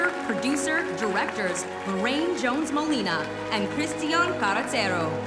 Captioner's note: cheers and applause